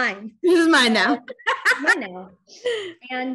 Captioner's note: chuckles